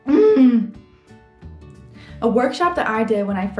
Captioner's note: lively music; grunting